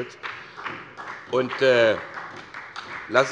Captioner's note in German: Beifall bei Abgeordneten der SPD